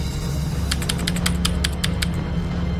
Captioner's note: typing clicks